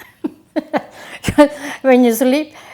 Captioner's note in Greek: γέλιο